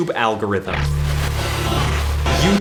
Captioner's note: glitchy static